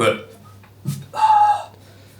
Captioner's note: burp